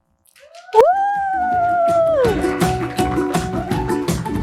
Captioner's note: audience cheering and applauding; upbeat music